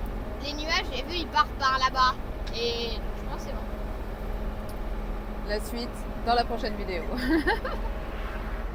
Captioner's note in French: rires